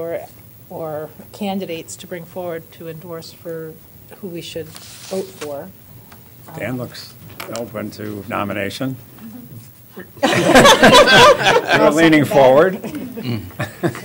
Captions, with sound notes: CANDIDATES TO BRING FORWARD TO ENDORSE FOR WHO WE SHOULD VOTE FOR? >> DAN LOOKS OPEN TO NOMINATION. [ LAUGHTER ]